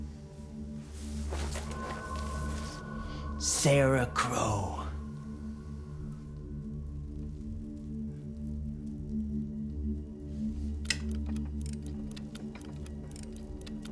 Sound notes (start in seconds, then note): 1.1 sheet rasping; 10.4 Sarah clicking